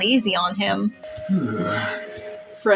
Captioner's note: Jæmis Exhales